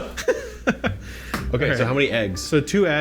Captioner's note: both laugh